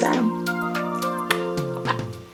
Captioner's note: sweet music; kissing sound